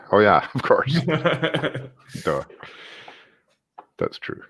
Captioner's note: both laugh